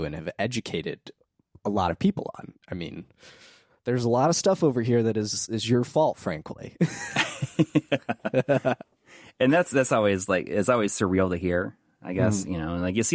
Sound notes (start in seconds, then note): 7.0 laughing